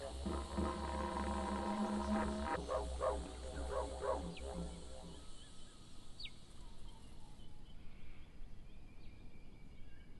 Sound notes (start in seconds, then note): 0.0 didgeridoo music; 5.4 birds chirping